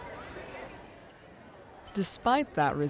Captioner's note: crowd of students talking